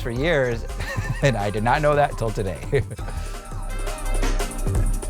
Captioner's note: laughter